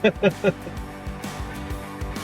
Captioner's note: laughing; upbeat music